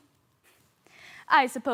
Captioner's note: soft breathing